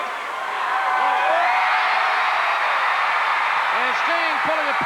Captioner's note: crowd cheering